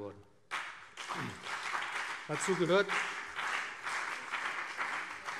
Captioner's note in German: Beifall BÜNDNIS 90/DIE GRÜNEN und CDU